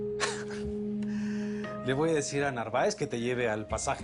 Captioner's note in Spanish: Risas